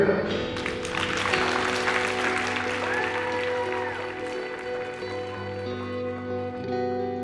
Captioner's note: crowd cheers